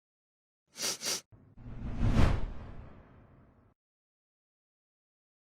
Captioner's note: sniffing